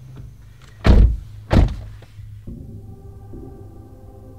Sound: door slams

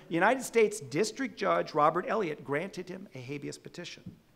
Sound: none

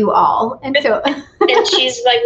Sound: laughs

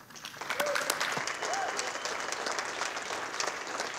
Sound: audience applauding

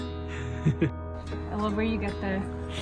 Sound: laughs

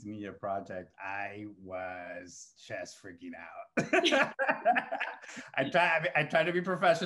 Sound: laughs

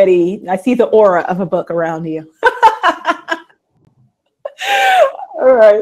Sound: laughs

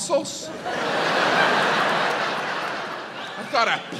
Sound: audience laughs

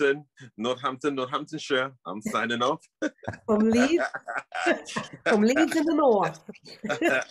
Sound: laughs

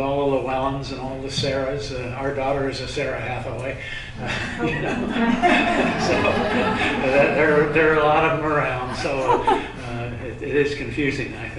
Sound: laughter

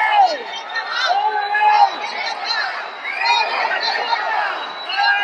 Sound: protesters chanting

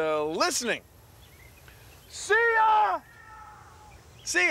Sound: echoing

